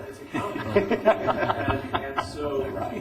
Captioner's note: laughter